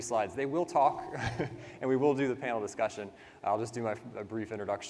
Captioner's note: laughs